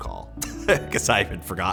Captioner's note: laughs